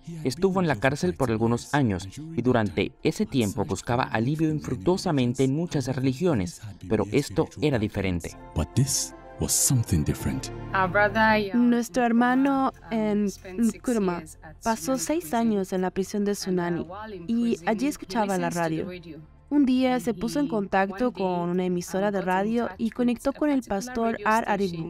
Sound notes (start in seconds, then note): 8.6 Hablando idioma extranjero